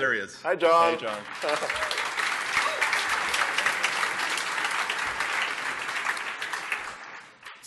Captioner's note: applause